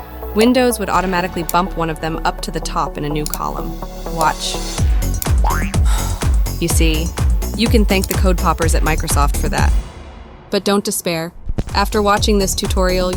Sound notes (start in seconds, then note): 5.4 boing; 5.8 sigh; 9.9 sarcastic